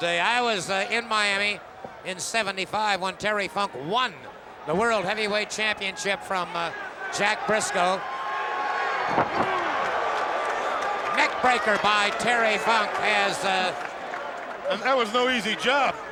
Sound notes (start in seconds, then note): 9.1 applause